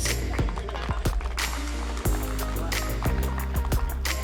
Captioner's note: applause